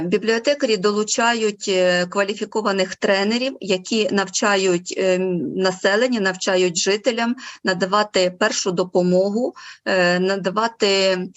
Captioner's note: foreign Language Spoken